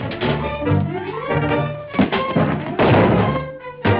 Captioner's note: table thuds